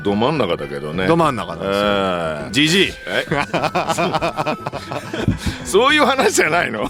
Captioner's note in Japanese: 笑い